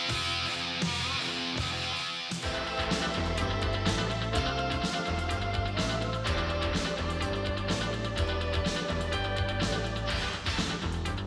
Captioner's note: crowd cheering